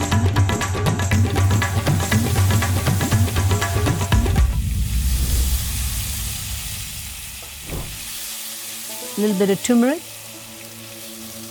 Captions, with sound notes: (upbeat music) (pan sizzling) A little bit of turmeric.